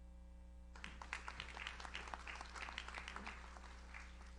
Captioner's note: audience applauds